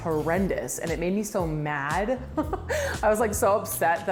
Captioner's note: laughs